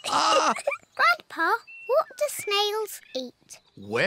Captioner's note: both laugh; laughs